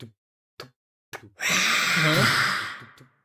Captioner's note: whisper screams